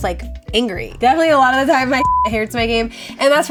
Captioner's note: beep